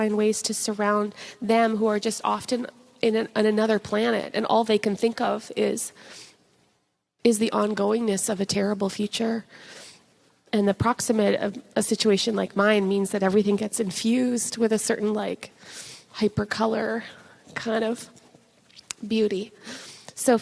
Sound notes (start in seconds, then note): none